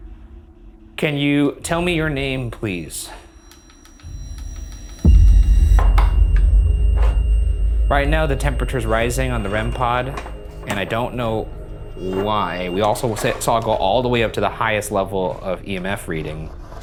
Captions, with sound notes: Can you tell me your name please? (REM-pod beeps) Right now the temperature's rising on the REM-pod and I don't know why, we also saw it go all the way up to the highest level of EMF reading.